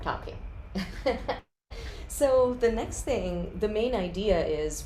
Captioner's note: laughter